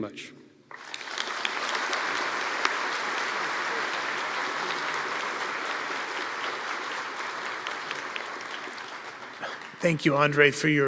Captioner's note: applause